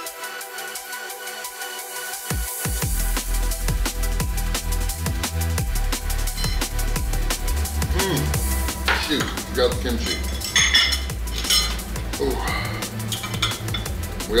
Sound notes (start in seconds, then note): 7.9 grunts; 10.0 cutlery clanking; 12.1 exhales; 12.3 intense music